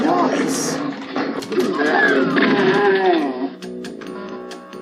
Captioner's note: DOOM Sounds